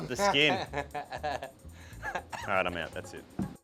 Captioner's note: laughing